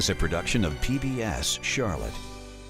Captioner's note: voiceover